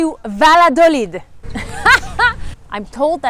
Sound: laughs

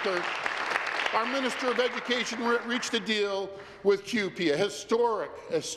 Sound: applause

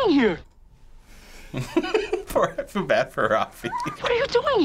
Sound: chuckling

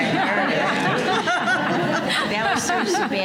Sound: laughter

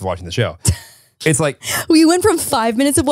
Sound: chuckles

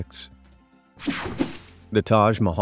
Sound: screen whooshing

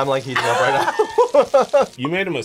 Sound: both laugh

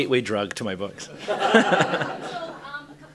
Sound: laughter

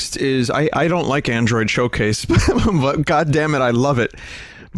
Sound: laughter

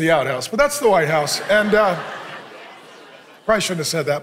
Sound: congregation laughing

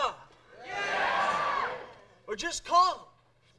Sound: crowd cheering

